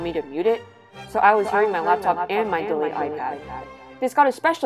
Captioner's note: with echo